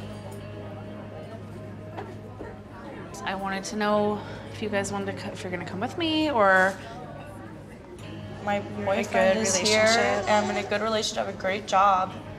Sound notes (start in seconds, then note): none